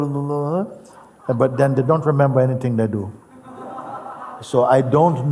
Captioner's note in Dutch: gelach